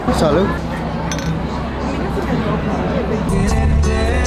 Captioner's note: bottles clinking; upbeat music continues